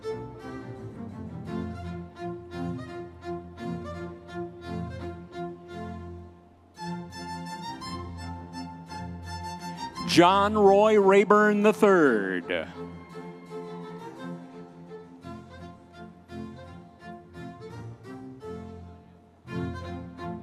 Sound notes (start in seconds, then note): 0.0 classical orchestral music; 13.3 audience members cheering; 15.7 classical orchestral music continues